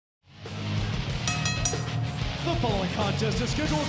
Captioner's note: bell ringing